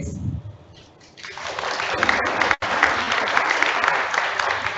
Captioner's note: audience applauds